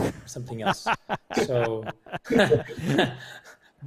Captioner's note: laughs